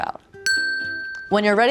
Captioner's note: bell dings